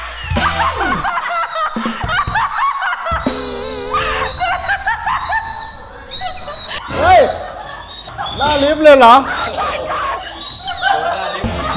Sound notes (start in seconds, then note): 0.3 laughs maniacally; 0.3 whistle blowing; 3.1 whistle blowing continues; 3.8 laughs maniacally continues; 7.5 laughs maniacally; 7.6 whistle blowing continues; 10.5 laughs